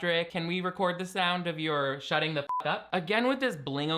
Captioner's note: beeping